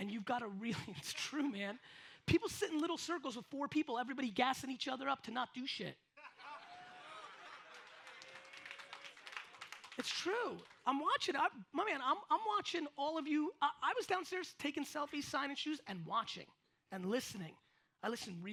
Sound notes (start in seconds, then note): 6.2 audience laughs